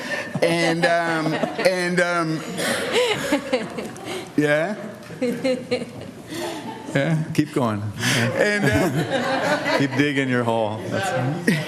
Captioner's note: laughter